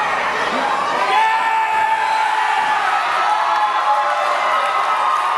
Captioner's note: audience cheering